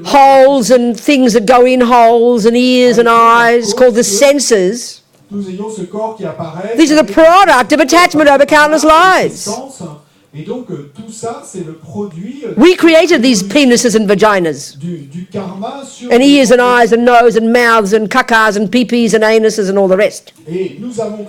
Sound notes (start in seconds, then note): 4.1 speaking in French; 9.1 speaking in French